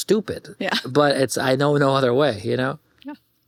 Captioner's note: chuckles